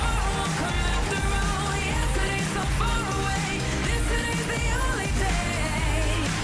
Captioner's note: cheers and applause